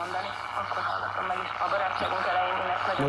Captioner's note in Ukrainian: Чути радіоновини